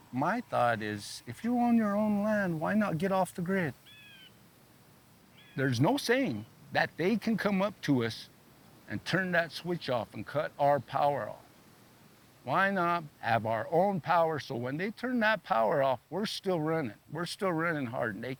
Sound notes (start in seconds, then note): 3.8 bird caws